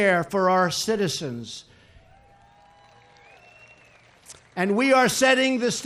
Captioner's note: applause